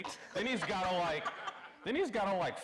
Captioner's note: audience laughing